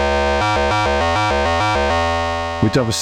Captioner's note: alarm beeping